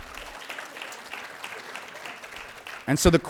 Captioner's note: applause